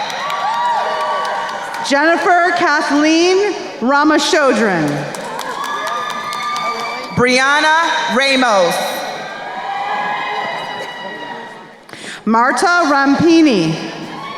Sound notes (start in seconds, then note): 0.0 crowd cheering and applauding; 4.7 crowd cheering and applauding; 9.4 crowd cheering; 13.9 crowd cheering